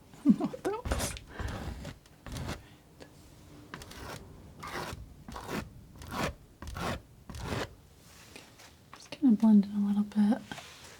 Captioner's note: laughs